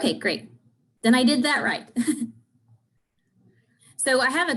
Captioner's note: chuckles